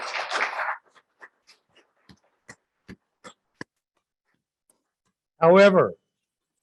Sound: applause

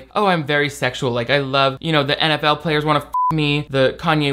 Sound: beep

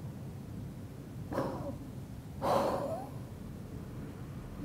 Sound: exhales forcefully

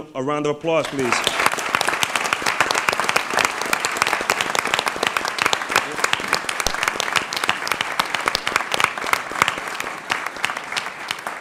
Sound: applause

